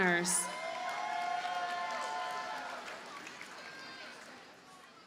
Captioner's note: audience cheers and applauds